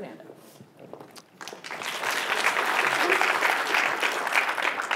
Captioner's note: applause